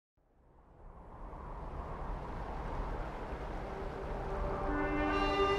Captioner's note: rushing water; melodic music